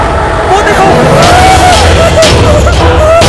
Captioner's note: Whimpering